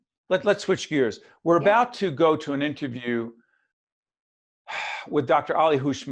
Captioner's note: sigh